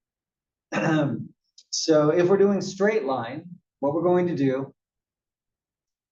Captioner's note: cough